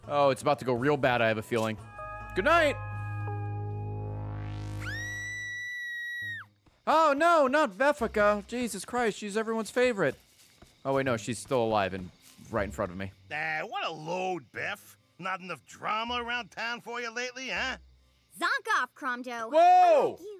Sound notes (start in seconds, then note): 4.8 Beffica screams